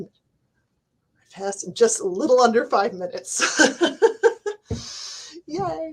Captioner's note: laughs